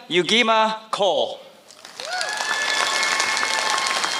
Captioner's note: applause